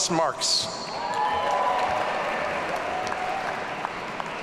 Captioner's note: audience cheering